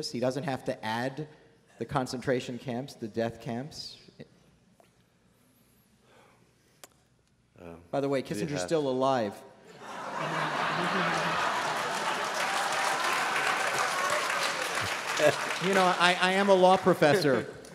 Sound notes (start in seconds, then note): 12.9 laughter; 14.4 applause